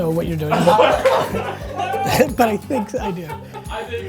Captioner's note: laugh